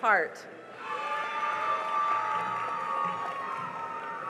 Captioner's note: cheering and applause